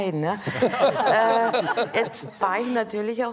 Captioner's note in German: Gelächter